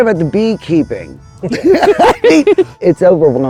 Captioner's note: laughing